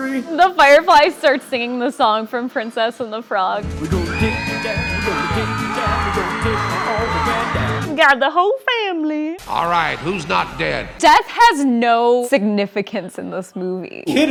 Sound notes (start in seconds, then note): 8.0 imitating Ray